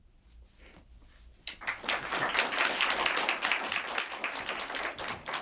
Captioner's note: applause